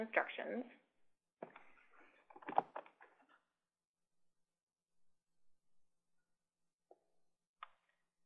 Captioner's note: typing Sounds